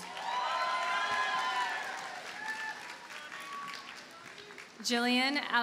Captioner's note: audience cheers and applauds